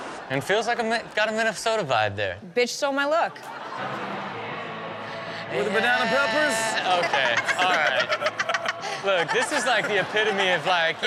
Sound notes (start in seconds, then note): 3.2 audience laughing; 6.1 everyone laughing